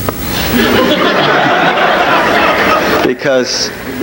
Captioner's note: audience laughs loudly